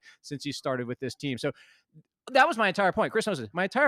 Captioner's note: inhales